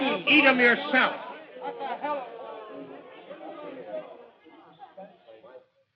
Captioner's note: upset chatter